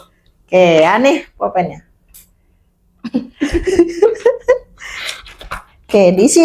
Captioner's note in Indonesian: tertawa